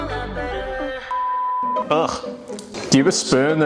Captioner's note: upbeat music; beep